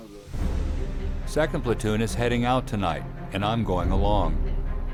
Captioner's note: voiceover